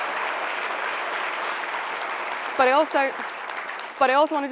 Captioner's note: applause